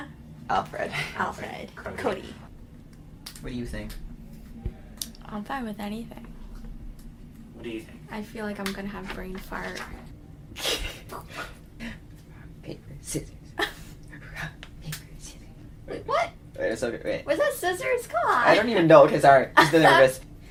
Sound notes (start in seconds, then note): 9.8 laughter; 18.2 laughs